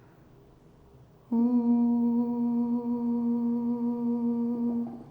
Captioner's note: humming